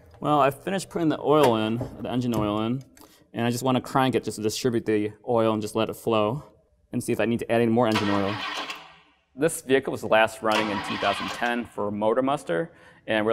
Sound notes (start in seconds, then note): 7.9 engine cranks